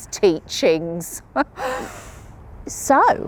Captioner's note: chuckles